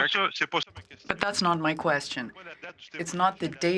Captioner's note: speaking French